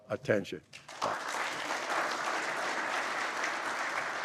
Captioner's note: applause